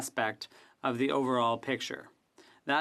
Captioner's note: speaking French